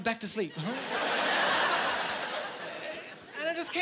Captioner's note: laughing